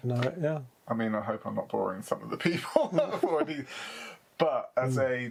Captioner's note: laughs